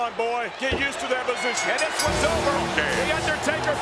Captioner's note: bell rings